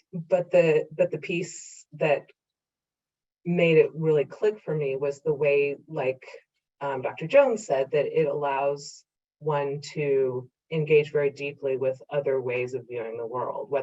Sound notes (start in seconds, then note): none